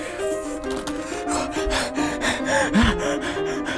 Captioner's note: hyperventilation